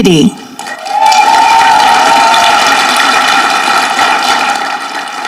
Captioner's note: audience clapping